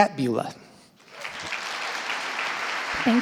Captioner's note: audience applauding